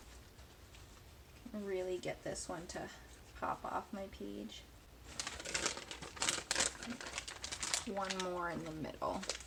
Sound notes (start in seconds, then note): 5.0 newspaper crinkling